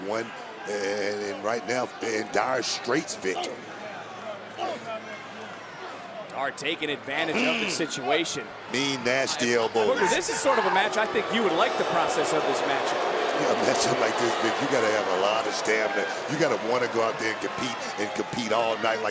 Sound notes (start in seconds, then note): 13.8 crowd boos